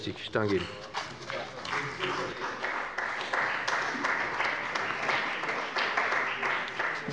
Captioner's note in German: Beifall bei dem BÜNDNIS 90/DIE GRÜNEN und der CDU